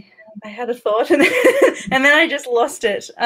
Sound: laughs

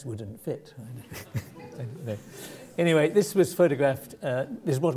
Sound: laugh

